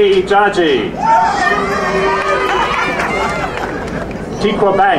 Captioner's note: crowd cheering